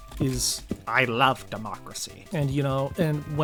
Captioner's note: Palpatine voice